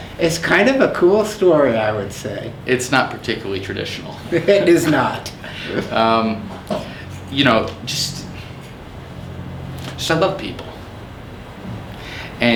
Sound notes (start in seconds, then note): 4.2 chuckles